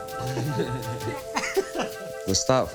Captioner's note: group chuckling